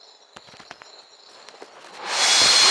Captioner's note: whispering